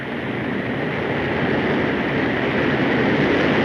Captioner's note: engines droning